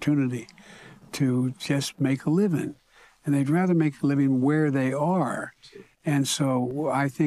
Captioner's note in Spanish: habla en ingés